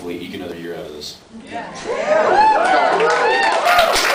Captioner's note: cheers; applause